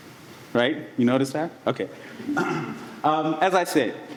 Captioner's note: coughs